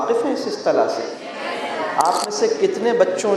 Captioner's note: voices from the audience